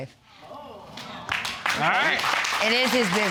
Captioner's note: audience exclaiming and applauding